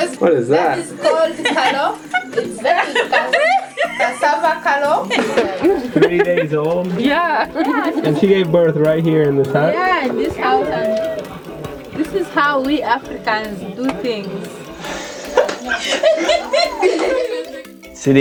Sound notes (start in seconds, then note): 2.6 laughing; 15.4 laughing